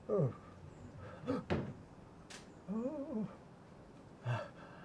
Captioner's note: man moaning